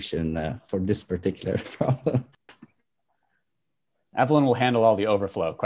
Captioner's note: laughing